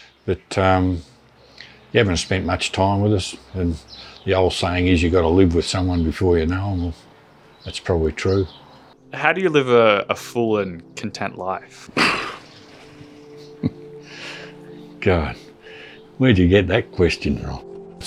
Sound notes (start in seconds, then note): 11.9 sigh